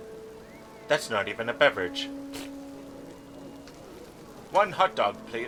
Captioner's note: raspberry